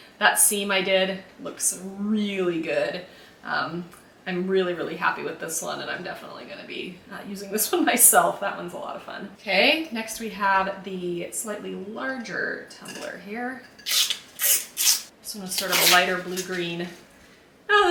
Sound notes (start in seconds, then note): 13.8 tape unwrapping